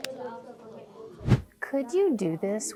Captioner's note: whoosh